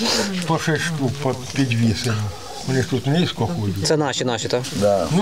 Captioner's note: speaks in code